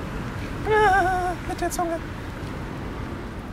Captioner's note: in a high-pitched voice